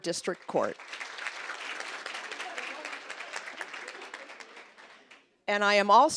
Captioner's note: applause